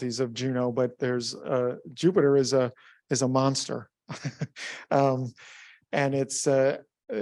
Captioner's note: chuckles